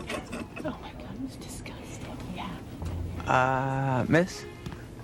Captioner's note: passenger laughs; flight attendants chattering